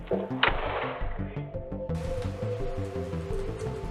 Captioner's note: door thudding